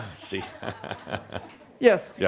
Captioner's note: Adamus chuckles